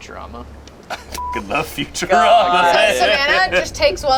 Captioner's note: beep